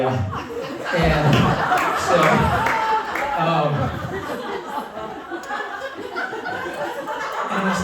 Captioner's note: laughter